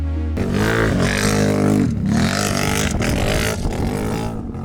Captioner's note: engine revving